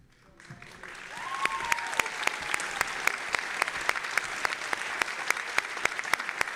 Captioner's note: audience applauding and cheering